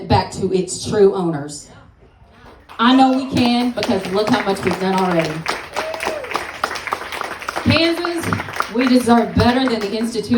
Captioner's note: applause